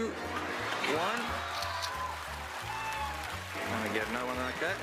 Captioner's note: camera shutter clicks